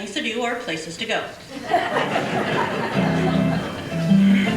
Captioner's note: audience laughter; organ music